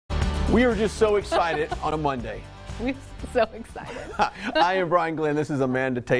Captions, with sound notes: We are just so excited (chuckles) on a Monday. We're (chuckles) so excited. (laughs) I am Brian Glenn, this is Amanda Tatom,